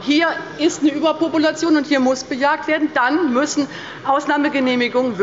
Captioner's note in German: none